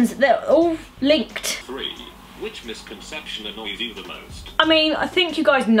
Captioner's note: text to speech